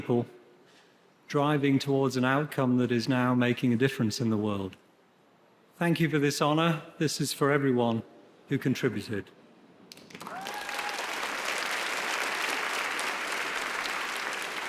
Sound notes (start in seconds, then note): 9.9 audience applauding